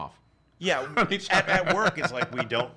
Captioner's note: laughs